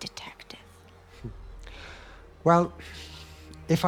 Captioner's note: Det. Antern laughs